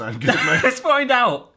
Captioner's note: laughs